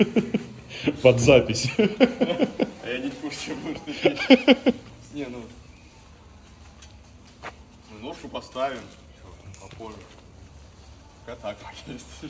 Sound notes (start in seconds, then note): 1.6 laughter